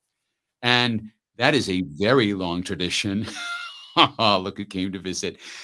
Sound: laughs

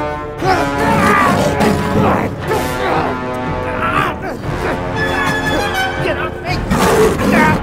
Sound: screams in pain

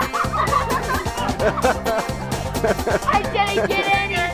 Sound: male instructor laughs; children laughing

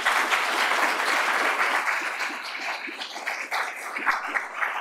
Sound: applause

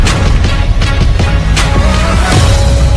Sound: intense Roar

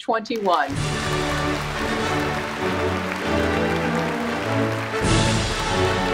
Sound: applause; fanfare

